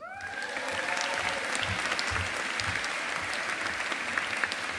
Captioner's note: audience applauding